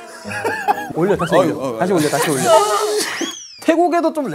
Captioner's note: sob; oh no, started crying